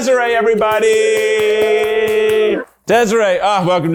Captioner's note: everyone claps and cheers loudly